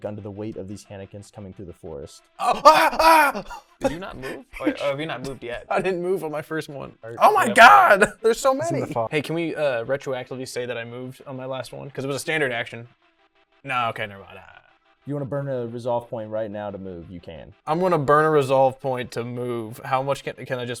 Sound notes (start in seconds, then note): 2.4 screaming